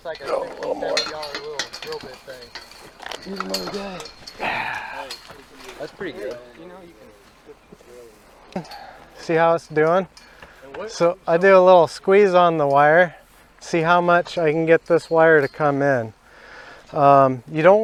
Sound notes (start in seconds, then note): 0.2 rail clanks; 4.4 man sighs